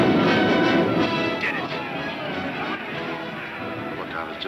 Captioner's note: dramatic music; explosion booming; men shouting